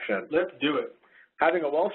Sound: voiceover

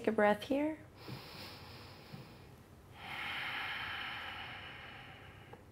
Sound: slowly inhales and exhales

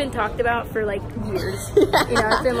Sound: laughs

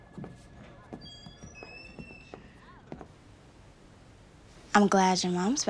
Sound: door creaking

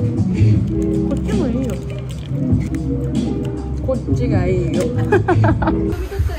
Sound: laughs

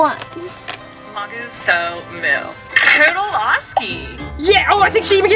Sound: customer speaks gibberish

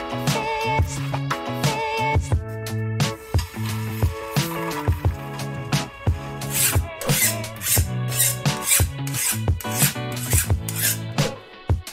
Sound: sizzling

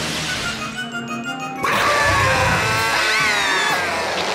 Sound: screaming

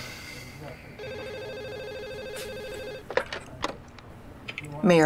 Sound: telephone ringing

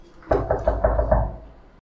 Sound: knock

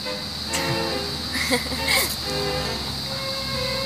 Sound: both chuckles

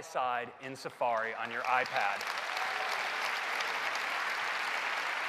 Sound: applause

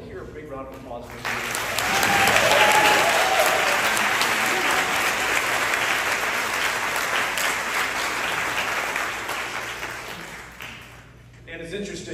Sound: applause

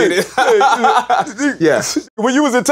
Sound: laughter

